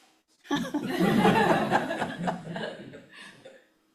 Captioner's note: audience laughing